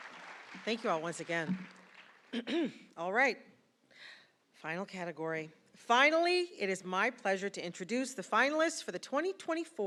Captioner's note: applause